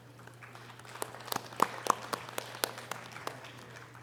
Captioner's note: audience applause